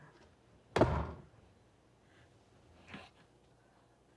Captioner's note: door slamming